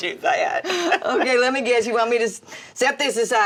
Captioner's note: mama laughs